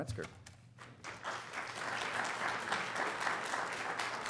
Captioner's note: applause